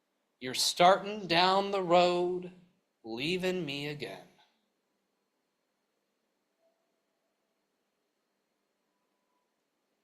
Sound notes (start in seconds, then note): none